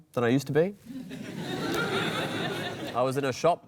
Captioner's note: laughter